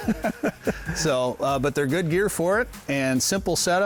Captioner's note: laugh